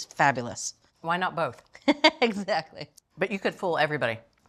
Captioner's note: laughing